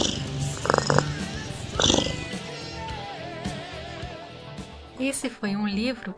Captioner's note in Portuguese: ronrom